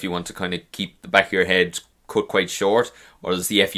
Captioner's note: none